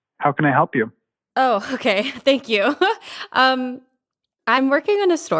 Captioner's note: laughs